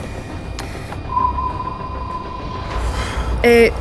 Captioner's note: sonar pinging